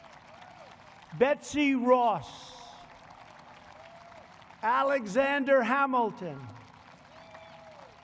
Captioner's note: applause